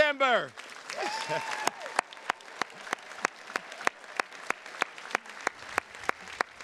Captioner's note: attendees cheers and claps; chuckles